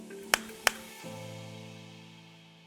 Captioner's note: hands slapping